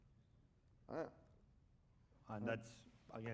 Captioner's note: speaking spanish